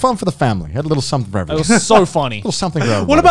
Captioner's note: murmurs